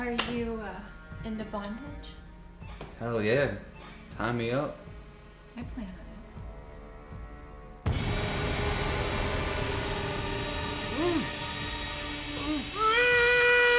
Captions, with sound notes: - Are you into bondage? - Hell yeah, tie me up. - I plan on it. (tool whirring) (intense music) (man groaning)